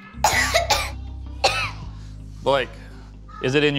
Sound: coughing

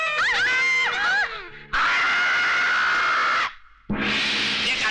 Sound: screaming

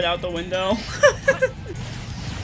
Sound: giggle

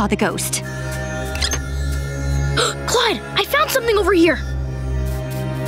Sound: gasping

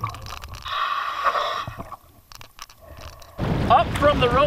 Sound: breathing

